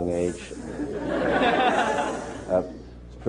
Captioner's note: laughter